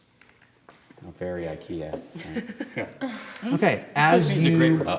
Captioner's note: light laughter